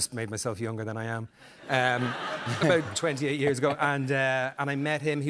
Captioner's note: laughter